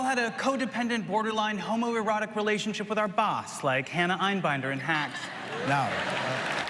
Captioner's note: applause